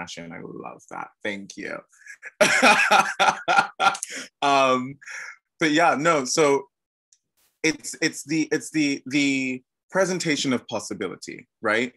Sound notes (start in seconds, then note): 2.1 laughs